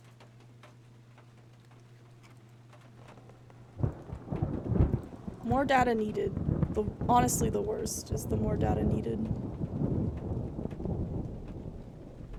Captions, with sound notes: [Thunder Rumbling] "More Data Needed." Honestly the worst is the "More Data Needed."